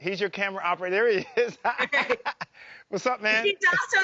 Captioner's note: laugh